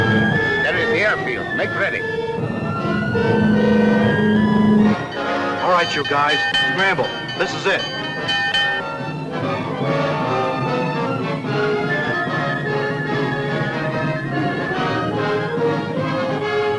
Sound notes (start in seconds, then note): 4.9 bell ringing; 9.2 suspenseful music